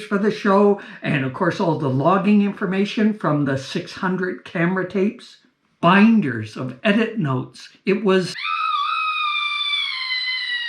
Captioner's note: scream